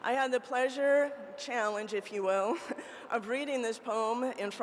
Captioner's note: chuckles